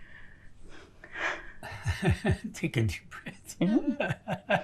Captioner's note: laughing